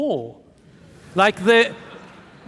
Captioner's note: audience laughing